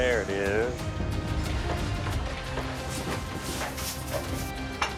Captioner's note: dramatic music; objects clattering